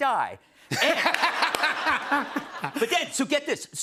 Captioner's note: laughter